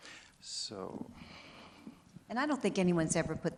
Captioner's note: breathes soundly